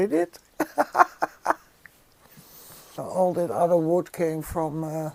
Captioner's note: laughs